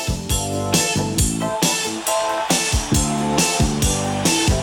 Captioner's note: upbeat music; audience cheering